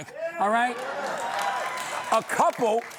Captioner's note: cheering and applause